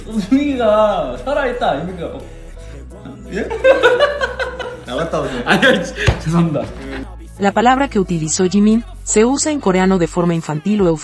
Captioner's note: laughs